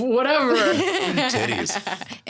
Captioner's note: laughing